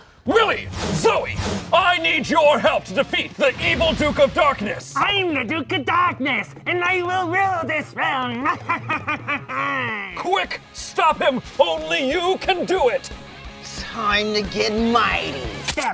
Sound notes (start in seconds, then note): 7.3 laughs